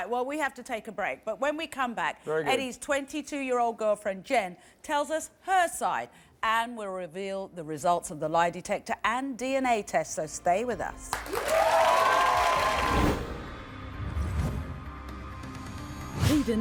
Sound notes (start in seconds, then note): 11.1 audience applauds; 12.5 dramatic music